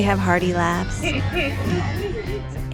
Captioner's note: laughs